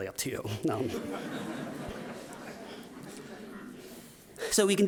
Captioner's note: audience laughing